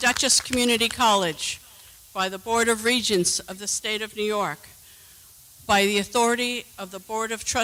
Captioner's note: applause